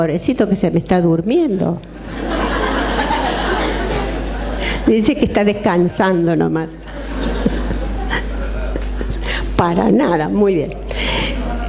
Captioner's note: laughs